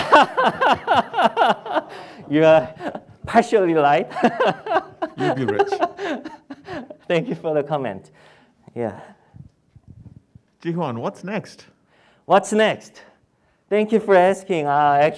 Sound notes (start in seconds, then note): 0.0 laughing; 5.5 male Voice